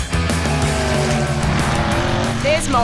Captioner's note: little caravan whippp